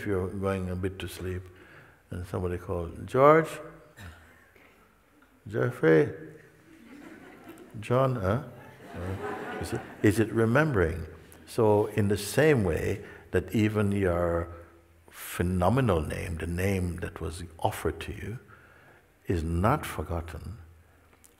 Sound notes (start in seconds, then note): 6.6 laughter